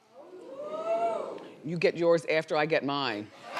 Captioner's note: audience oohing